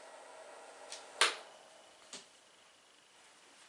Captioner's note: click